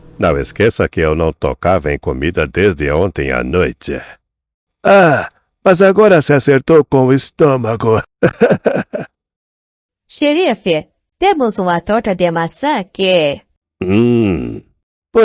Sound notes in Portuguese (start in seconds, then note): 7.5 risadas